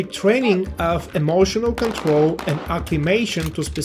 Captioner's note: guns firing